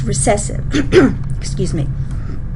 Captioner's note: clears throat